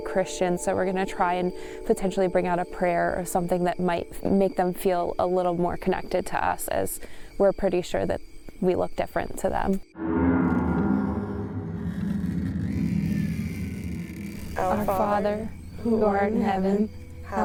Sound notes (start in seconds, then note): 10.9 ominous music; 11.7 door creaking open